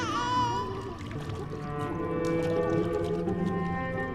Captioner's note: crying continues; water splashing